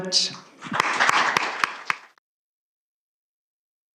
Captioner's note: applause